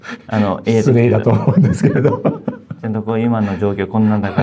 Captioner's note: laughs